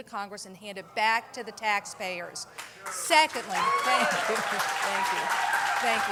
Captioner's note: cheers and applause